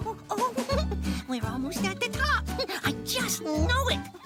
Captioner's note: giggles